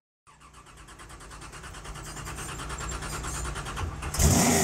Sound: engine starting; engine revving loudly

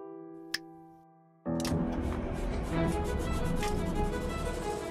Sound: engine Starts

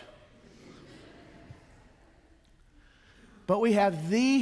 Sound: congregation chuckles

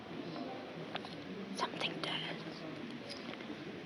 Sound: whispers

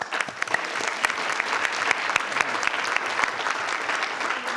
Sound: crowd clapping

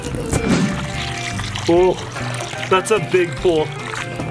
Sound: water flowing

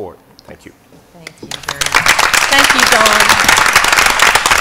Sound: applause

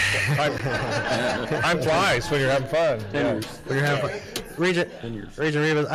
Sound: whole room laughs

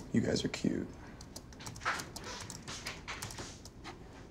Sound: creaking

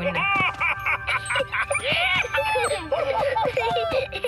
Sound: excited laughter

